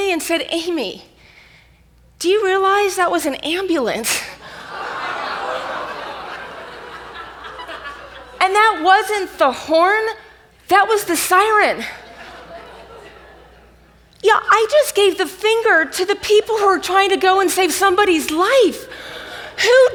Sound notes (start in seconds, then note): 4.4 audience laughs